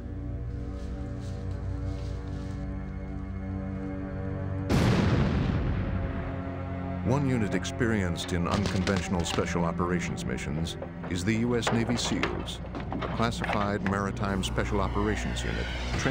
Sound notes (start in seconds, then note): 0.1 suspenseful instrumental music; 4.7 explosion